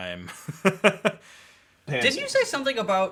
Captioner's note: laughs